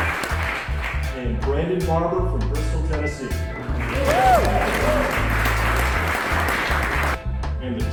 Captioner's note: applause; applause